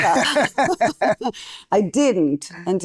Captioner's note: laughing